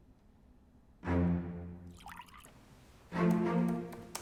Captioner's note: alcohol sloshing; keyboard keys clacking